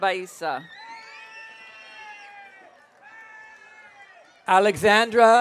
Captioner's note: audience cheering